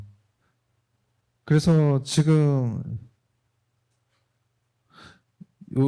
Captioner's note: speaking korean